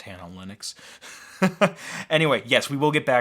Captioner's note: laughs